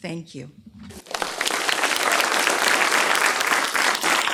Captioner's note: clapping